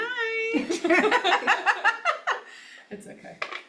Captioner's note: laughter